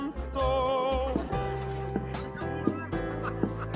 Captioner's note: indistinct chatter